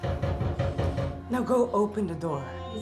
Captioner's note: knocking on door